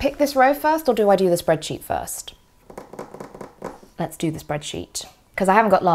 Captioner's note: drums fingers on table